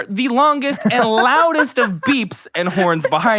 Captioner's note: laughing